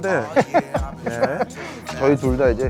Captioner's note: laugh